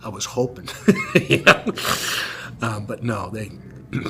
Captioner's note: laughter